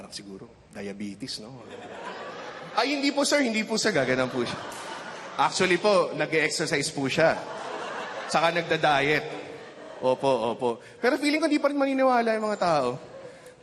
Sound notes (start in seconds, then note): 1.6 laughter; 7.1 laughter